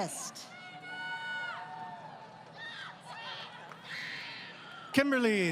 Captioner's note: crowd Cheering